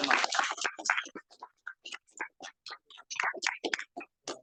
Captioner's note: audience clapping